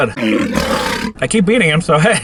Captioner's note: lion roars